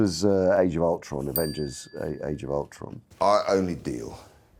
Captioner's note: bell chimes